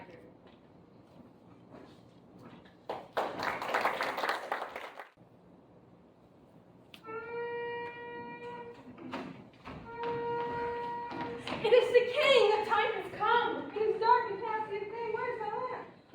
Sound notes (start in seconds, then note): 2.8 applause; 6.7 trumpet Sounds